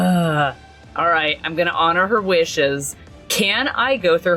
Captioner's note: exasperated sigh